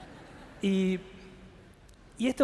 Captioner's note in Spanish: Risas